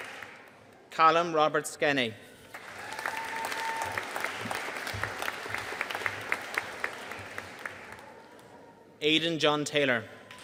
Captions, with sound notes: Callum Robert Skene. (AUDIENCE CHEERING AND APPLAUDING) Aiden John Taylor.